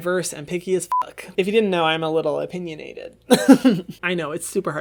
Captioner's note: laughs